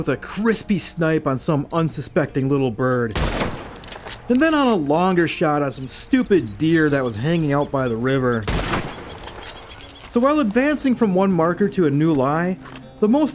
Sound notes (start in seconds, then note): 3.1 gunshot; 8.4 gunshot